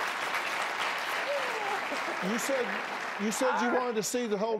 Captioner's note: cheers and applause